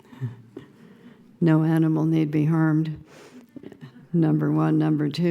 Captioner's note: laughing